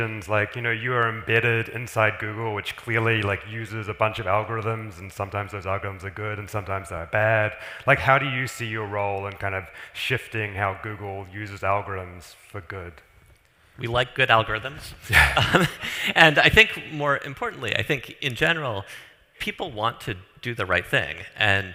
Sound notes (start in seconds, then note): 15.0 laughs